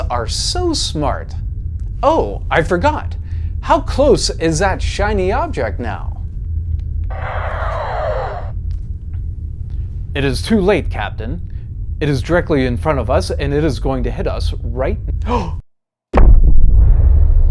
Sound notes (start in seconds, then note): 15.2 gasps; 16.2 explosion sound